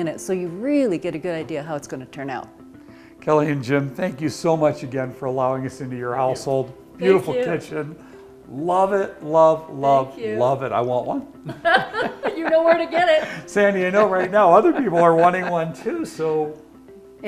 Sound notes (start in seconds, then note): 11.5 laughs